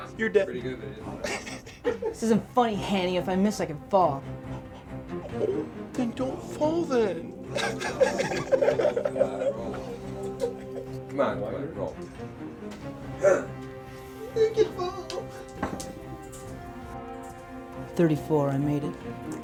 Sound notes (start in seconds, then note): 1.0 chuckles; 8.3 laughs; 13.2 suspenseful music; 16.0 dice clatter